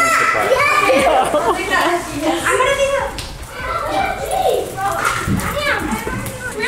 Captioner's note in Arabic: الأطفال يصرخون فوق بعضهم بحماس